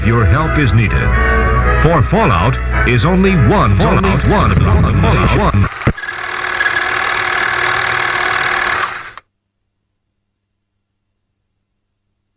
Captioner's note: audio becomes distorted